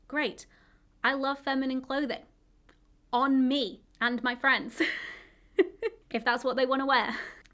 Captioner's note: chuckles